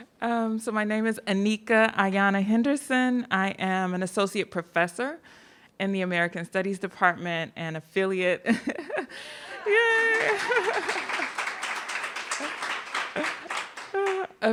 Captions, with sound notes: So my name is Aneeka Ayanna Henderson, I am an associate professor in the American Studies Department and affiliate... (laughs) Yeah! (laughs) (audience applauding)